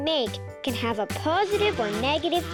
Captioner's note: bees buzzing